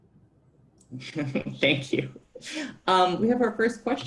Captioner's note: laughs